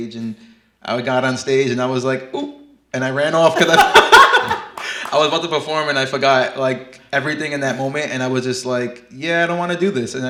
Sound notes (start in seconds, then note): 3.5 laugh